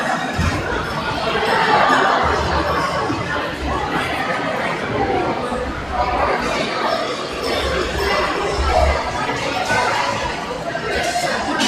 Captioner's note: crowd chattering